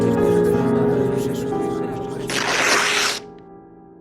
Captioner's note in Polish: trzask przedartej kartki